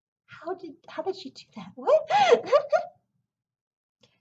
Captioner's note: laughs